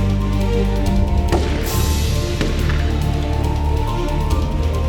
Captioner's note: guns firing